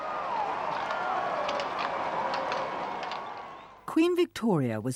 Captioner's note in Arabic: هتافات الجماهير